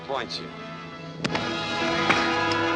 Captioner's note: punching; epic music